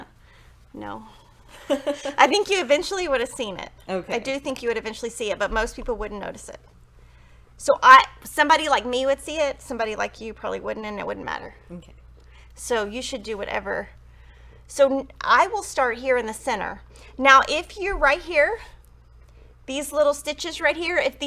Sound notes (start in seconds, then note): 1.5 jolly laughs; 1.5 laughs